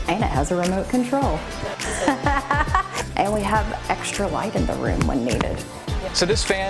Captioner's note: laughter